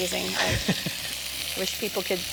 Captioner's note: laughter